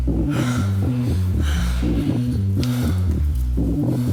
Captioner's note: breathing heavily